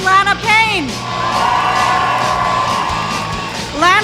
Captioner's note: cheering